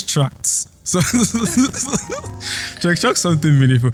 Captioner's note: laughs